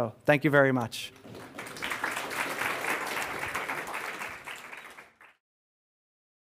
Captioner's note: applause